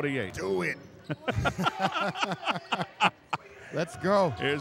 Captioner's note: laughing